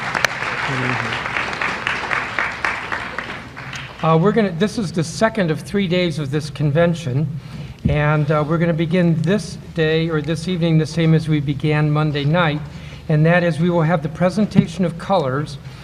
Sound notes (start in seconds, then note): 5.1 applause